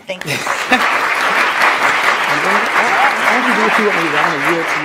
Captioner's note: attendees applauding; speaker's voice drowned out by applause